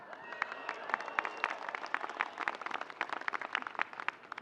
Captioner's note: audience cheering